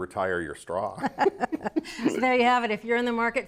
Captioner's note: all laughing